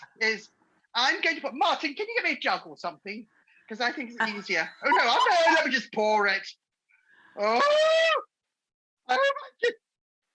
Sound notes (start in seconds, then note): 4.2 laughing